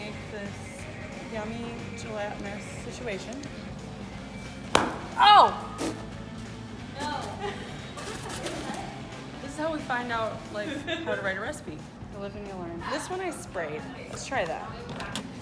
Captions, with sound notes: - We make this yummy, gelatinous, situation. (balloon popping violently) Oh! This is how we find out how to write a recipe. You live and you learn. This one I sprayed. Let's try that.